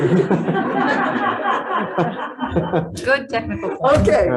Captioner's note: members laughing